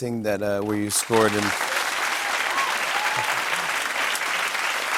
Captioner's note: cheers and applause